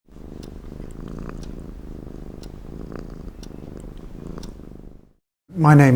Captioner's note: cat Purring